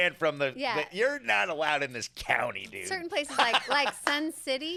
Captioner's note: laughs